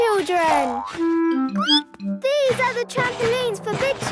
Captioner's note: squeaks